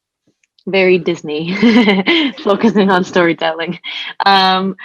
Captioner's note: chuckles